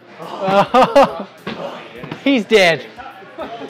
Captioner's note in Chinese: 笑声